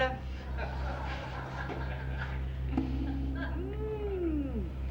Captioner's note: patrons laughing